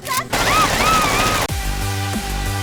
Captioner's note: Barret cocking his gun arm; Barret firing his gun arm